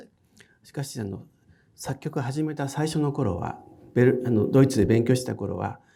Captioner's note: speaking in foreign language